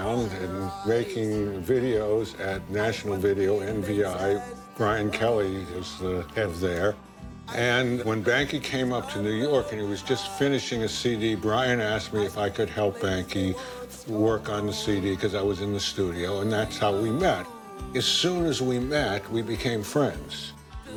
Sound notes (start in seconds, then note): none